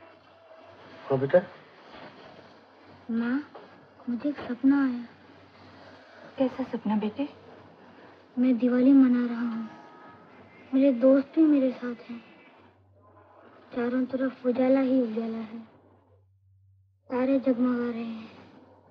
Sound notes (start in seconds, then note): none